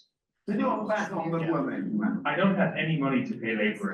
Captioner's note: father speaking in foreign language